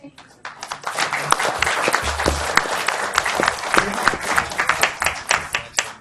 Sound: audience applauds

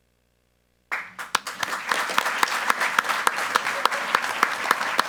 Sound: group applauding

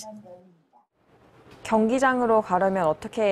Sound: Korean

